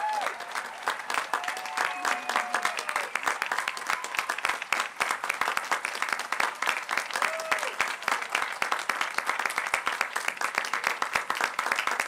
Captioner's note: applause